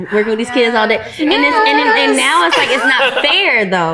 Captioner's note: laughs